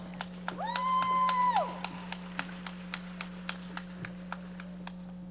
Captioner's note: audience applauding